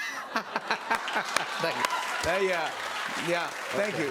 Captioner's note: cheers and applause